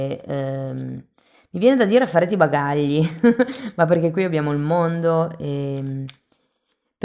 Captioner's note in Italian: risate